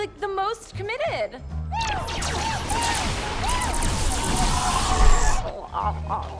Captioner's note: exclaims; grunts